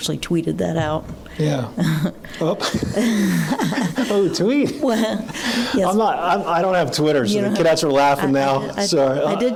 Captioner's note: laughing